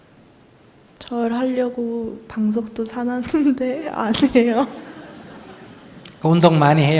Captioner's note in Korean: 웃음